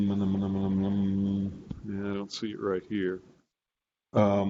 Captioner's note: hums